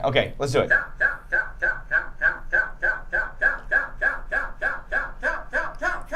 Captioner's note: computer repeatedly saying cow